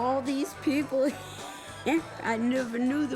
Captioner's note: laughing